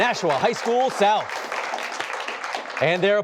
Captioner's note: applause